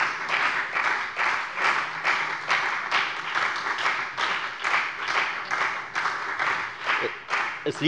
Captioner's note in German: Beifall bei der FDP und der SPD